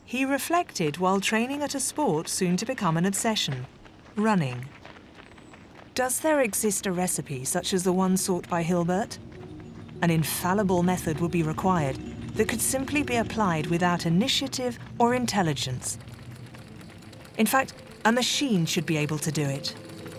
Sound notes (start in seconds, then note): 16.2 machine clicks